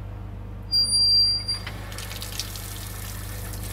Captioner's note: squeaking